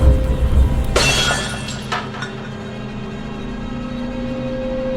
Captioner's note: breaking window glass